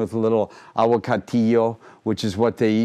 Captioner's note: speaking in foreign language